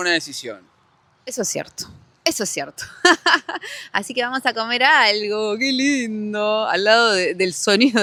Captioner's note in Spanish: risas